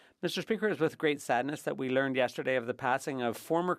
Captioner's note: speaking French